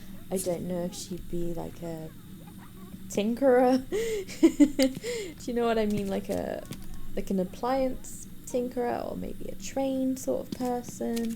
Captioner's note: laughs